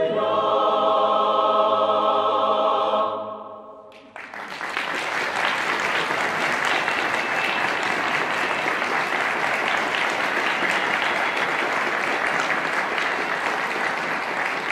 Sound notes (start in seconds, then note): 4.3 applause; 4.3 choir singing in language other than English